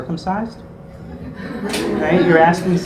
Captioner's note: laugh